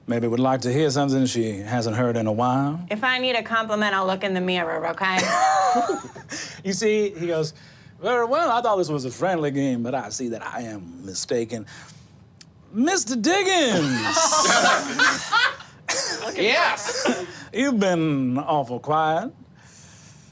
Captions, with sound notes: maybe would like to hear something she hasn't heard in a while. - If I need a compliment,, I'll look in the mirror, okay? - (laughs) You see, he goes: Very well, I thought this was a friendly game. But I see that I am mistaken. Mr. Diggins. (group laughing) - Yes! - You've been awful quiet.